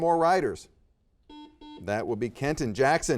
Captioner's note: buzzer beeping